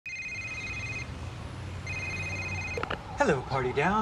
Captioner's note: phone ringing